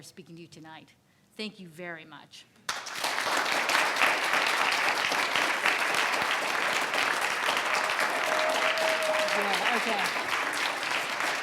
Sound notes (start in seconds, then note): 2.7 audience applauding; 8.9 audience cheering